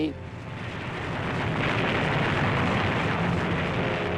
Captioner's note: bombs bursting